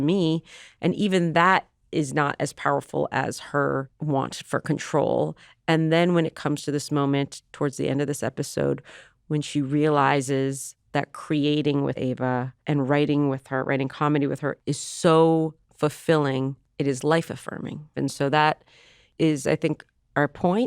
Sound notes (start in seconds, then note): none